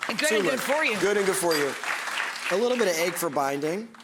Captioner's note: audience gasps and applauds; applause